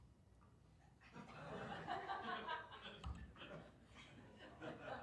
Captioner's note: audience laughs